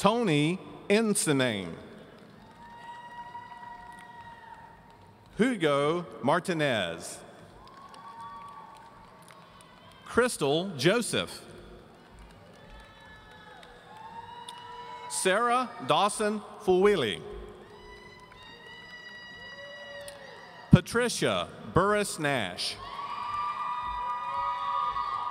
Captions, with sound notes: Tony Insinaime. (audience cheering) Hugo Martinez. (audience cheering) Crystal Joseph. Sarah Dawson Fulwiley. (audience cheering) Patricia Burres Nash. (audience cheering)